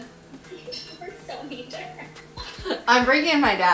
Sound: giggling

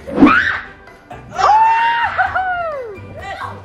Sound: screaming

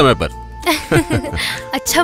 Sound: laughs

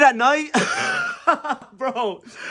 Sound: wheeze

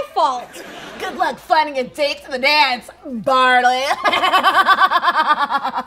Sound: laughs

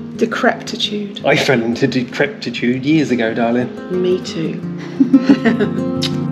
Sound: laughter

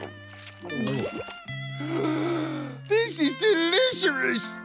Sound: gasping

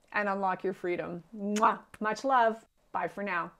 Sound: kisses

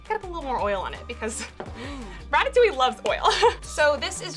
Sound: laughs

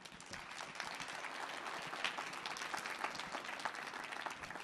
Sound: audience clapping

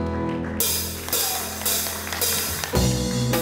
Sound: audience applauding

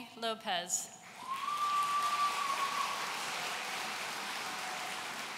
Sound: audience cheering

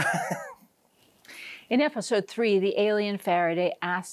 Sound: laughs

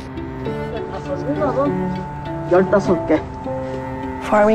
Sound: speaking Korean

